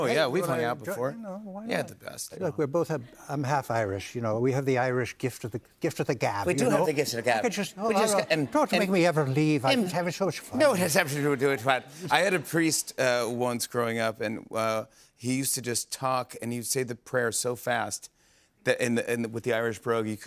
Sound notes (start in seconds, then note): 4.4 Irish accent; 12.1 normal voice